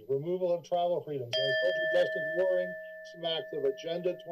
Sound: bell rings

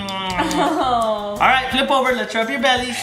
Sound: laughs

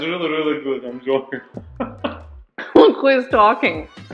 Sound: laughs

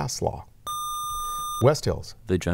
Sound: buzzer

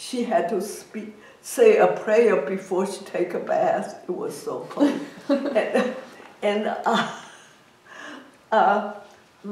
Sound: laughs; laughs

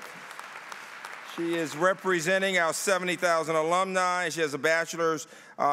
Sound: applause

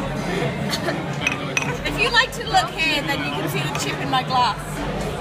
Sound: clinking glass for attention

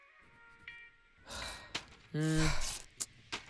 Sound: paper ripping; sigh

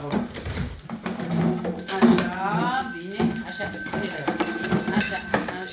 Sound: bell rings

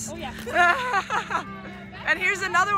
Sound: laugh

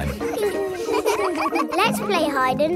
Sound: all giggling

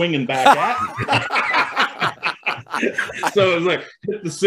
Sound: laugh

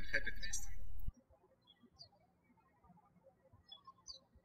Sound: birds chirping

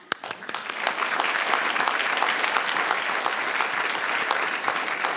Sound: audience applauding

